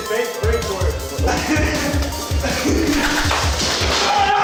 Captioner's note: maniacally laughing